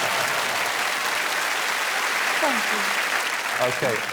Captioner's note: applause